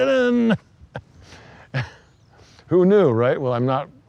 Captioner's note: laughs